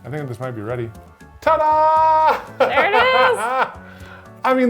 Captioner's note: laughing